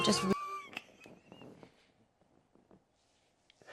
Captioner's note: laughing